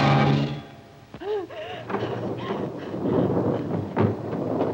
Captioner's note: panting, strained breathing